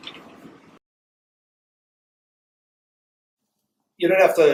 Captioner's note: silence